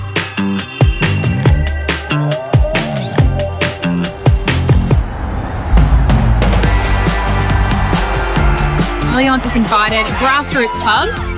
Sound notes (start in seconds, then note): 6.5 music intensifies; 7.7 crowd cheers